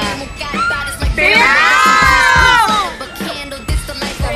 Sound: screaming

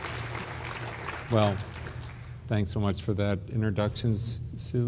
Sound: applause

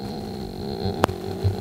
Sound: grunting sound

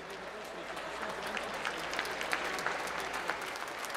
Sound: applause

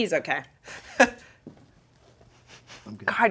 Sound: laughing

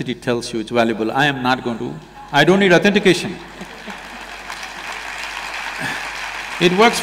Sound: applause

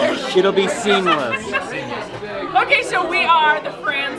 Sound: laughs

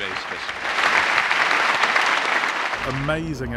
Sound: applause

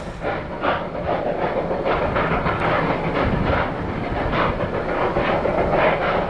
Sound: rotary chugging hard

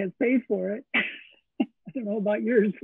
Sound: laugh

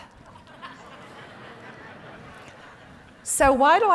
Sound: audience laughs

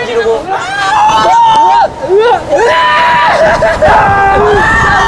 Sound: screaming

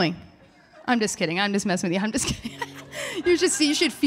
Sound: laughing

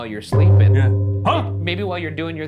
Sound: gong chimes

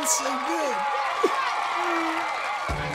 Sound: applause

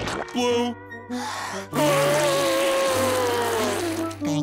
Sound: inhaling; blowing

